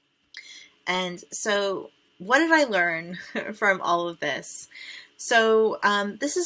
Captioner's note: chuckles